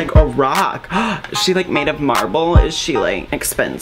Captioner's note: gAsP